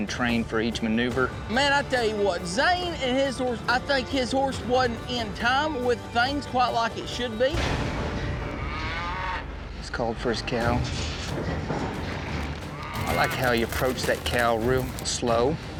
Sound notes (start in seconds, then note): 7.7 hoof beats, mooing